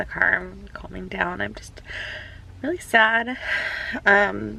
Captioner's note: sighs